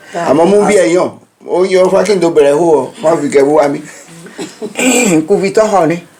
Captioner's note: everyone laughs…